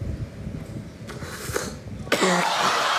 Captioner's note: inhales, coughs; laughter